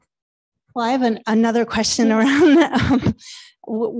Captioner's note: chuckling